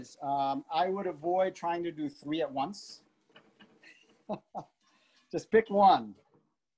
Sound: laughs

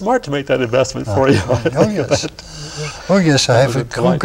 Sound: laughs

